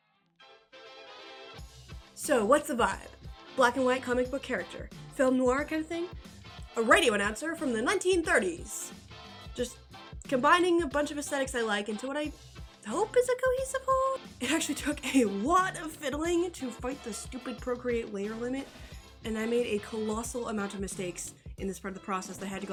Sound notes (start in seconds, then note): 1.6 upbeat electro swing music; 6.5 transatlantic-ish voice